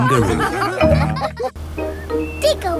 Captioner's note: all laughing